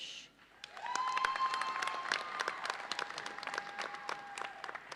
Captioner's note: audience cheers and applauds